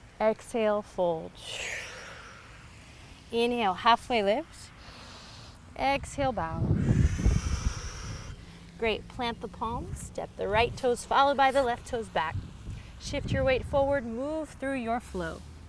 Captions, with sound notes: Exhale, fold. (exhales) Inhale, halfway lift. (inhales) Exhale, bow. (exhales) Great. Plant the palms. Step the right toes, followed by the left toes back. Shift your weight forward. Move through your flow.